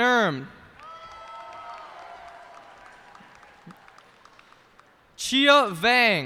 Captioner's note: cheers and applause